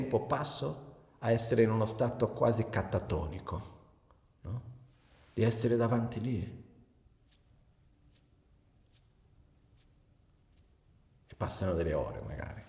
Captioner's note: scrolling